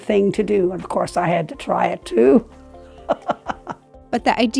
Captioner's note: laughing